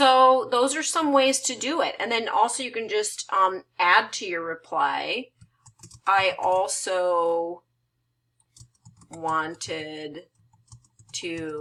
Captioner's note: typing